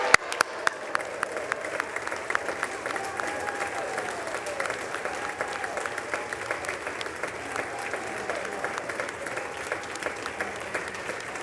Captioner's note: applause